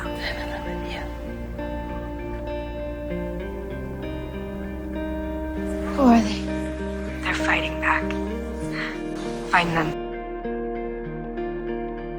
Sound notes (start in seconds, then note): 6.0 voiceover; 9.5 voiceover